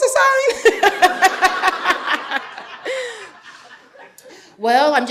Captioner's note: laughing; audience laughing